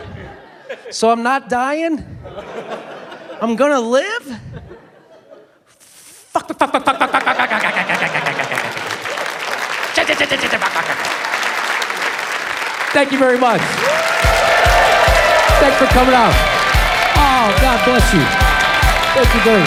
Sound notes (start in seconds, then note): 11.3 applause; 13.7 cheering